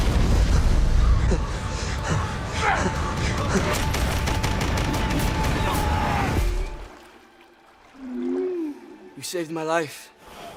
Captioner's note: intense gun fighting